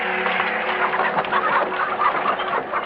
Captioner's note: hooves clattering